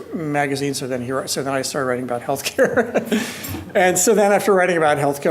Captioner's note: laughs